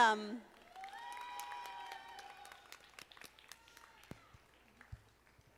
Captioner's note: audience applauding